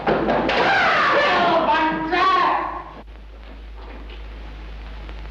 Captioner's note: screams